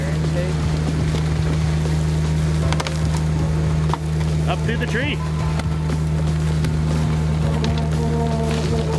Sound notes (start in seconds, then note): 1.7 engine roaring; 6.5 engine roaring; 8.7 rocks crackling